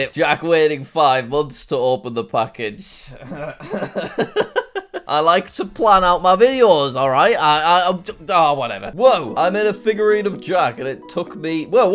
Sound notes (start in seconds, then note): 3.1 coughs and laughs; 7.3 stammers